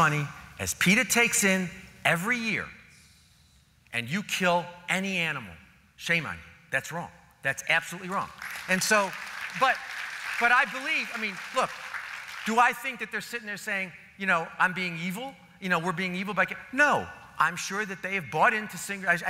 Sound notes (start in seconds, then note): 8.2 applause